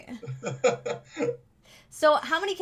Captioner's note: laughs